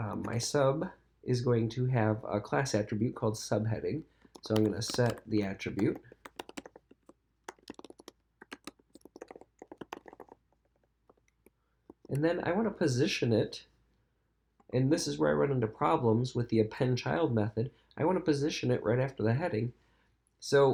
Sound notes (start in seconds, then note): 6.5 keyboard clicking